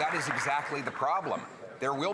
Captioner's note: some Applause